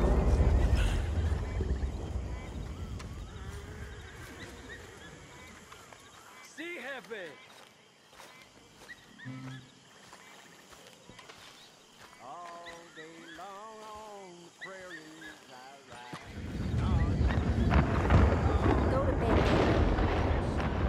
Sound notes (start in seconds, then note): 7.3 in Spanish; 13.7 sings in the background while the storm is approaching more loudly